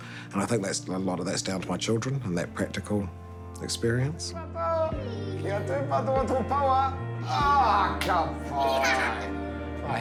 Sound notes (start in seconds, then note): 5.4 speaks maori; 8.5 laughs